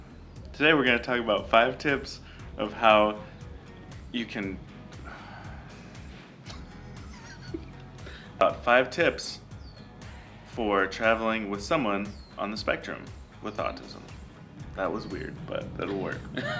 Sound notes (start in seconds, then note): 4.8 sighs; 6.4 laughs